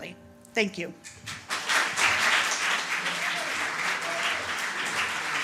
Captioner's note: applause